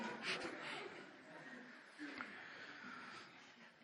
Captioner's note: laughter